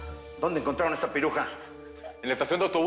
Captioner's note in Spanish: Sollozos